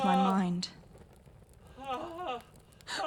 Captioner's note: cries